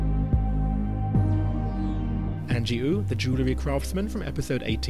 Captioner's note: voiceover